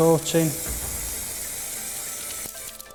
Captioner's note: spray hisses